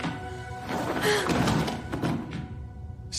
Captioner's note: sighs